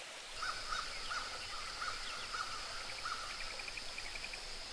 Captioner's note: crows cawing